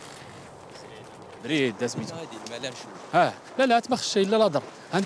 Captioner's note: Arabic spoken audio